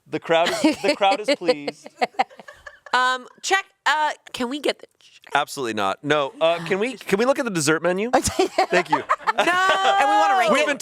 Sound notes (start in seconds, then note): 0.4 laughs